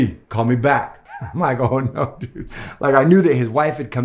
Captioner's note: laughs